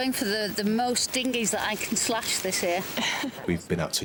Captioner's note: chuckling